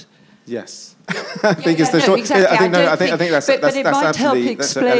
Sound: laughs

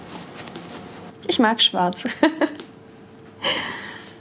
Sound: she laughs

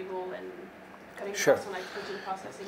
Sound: woman speaking faintly

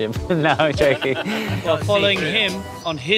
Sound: laughs

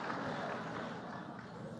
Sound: laughter

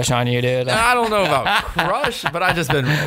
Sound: laughter

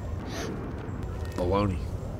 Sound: boy gasps

